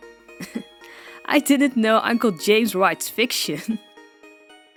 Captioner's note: chuckles